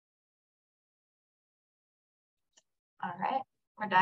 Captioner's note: silence